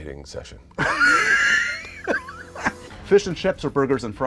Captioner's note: laughter